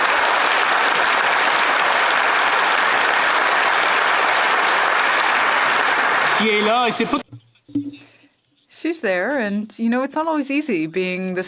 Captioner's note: applause